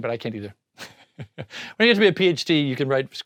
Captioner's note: laughs